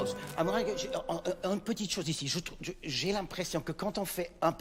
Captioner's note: speaking in French